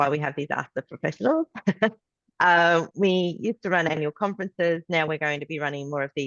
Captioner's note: laughs